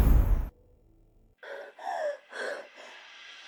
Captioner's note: crying